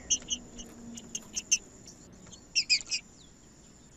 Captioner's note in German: trinca ferro cantando